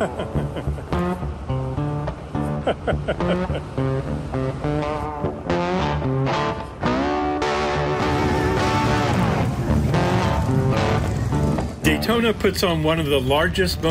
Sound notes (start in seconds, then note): 2.4 laughing; 8.2 engines humming